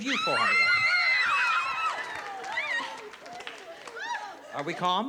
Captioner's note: screaming